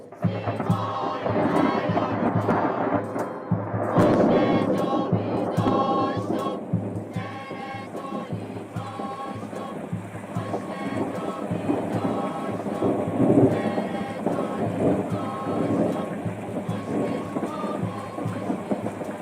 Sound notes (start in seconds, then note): 0.1 thunder rumbling; 7.5 rain falling